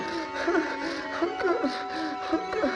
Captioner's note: sobbing